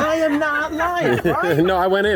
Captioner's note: laughing